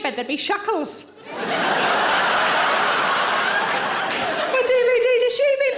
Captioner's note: audience laughing